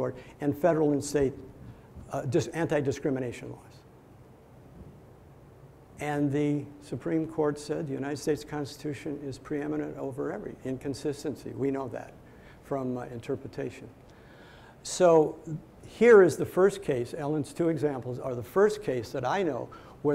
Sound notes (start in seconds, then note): none